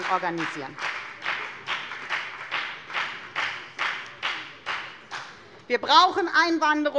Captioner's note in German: Beifall bei der FDP